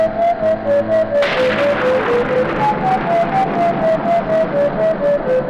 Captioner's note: thunder crashing